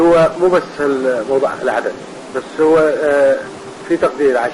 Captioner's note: voiceover